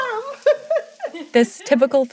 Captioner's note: both laugh